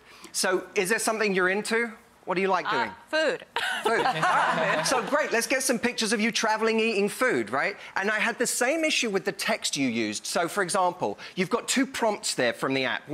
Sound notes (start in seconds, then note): 3.6 laughs; 3.7 audience laughs